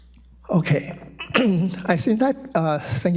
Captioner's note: clears throat